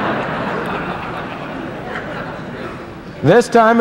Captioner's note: laughter